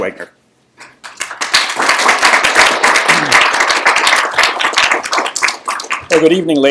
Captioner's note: applause